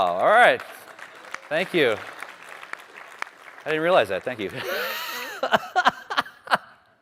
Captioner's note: applause